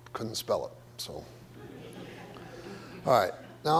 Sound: audience laughs

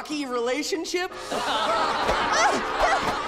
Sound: laughing

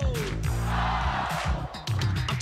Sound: crowd

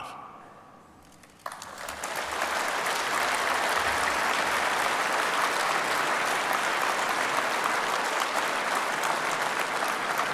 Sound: applause

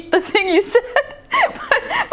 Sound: laughing

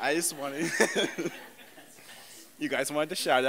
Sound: laughter

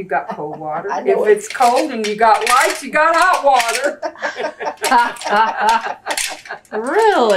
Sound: laughter

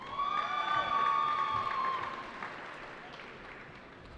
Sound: cheering

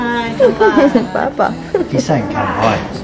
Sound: laughs

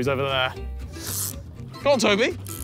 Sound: reel creaks

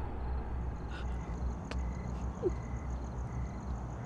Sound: scared breathing

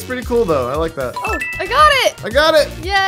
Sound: electronic beeps

